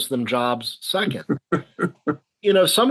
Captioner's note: chuckles